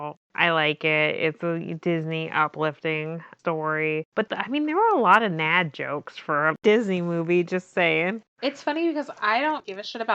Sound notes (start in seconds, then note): none